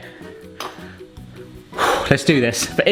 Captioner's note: sighs